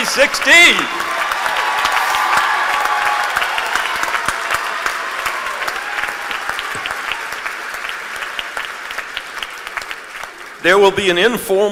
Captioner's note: applause